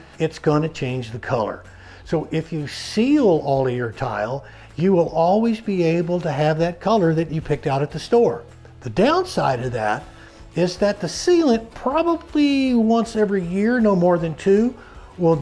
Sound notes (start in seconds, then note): none